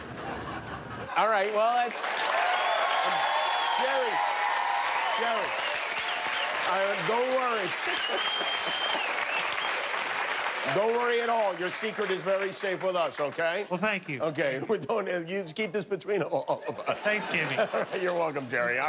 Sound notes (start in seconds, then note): 4.5 laughter; 11.8 applause